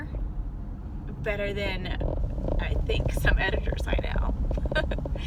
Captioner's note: laughs